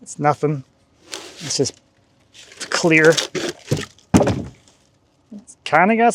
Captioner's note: wood clanging